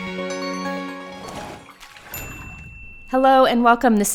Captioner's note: lighthearted music; chime; sloshing